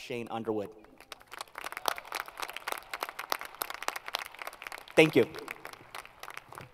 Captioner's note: applause